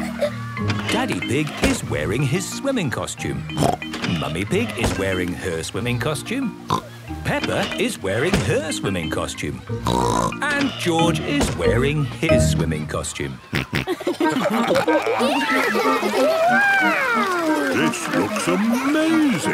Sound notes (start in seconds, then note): 3.6 snorts; 6.7 snorts; 9.8 snorts; 13.5 snorting, giggling